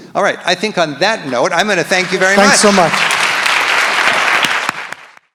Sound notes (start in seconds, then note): 1.2 audience applauds